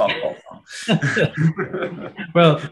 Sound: all laughing

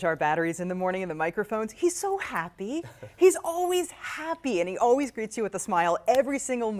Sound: laughter

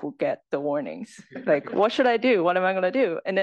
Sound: laugh

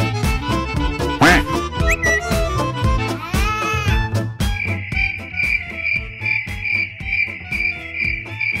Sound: laughs

